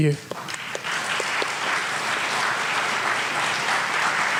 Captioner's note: audience applauds